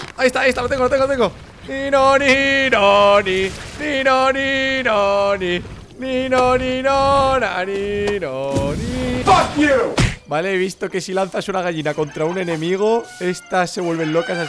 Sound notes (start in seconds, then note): 1.7 singing theme; 9.2 fuck You! sound effect